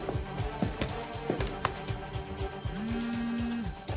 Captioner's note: pressing buttons